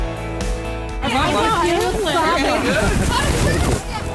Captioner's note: kids chattering